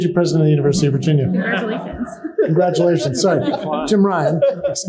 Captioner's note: laughter